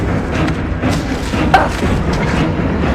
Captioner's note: Mollie grunts